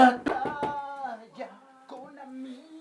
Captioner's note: knocks on glass